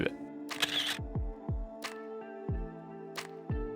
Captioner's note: camera shutter